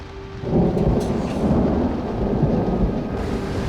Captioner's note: thunder